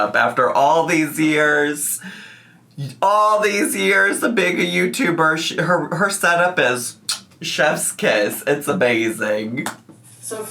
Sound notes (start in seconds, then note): 7.0 kisses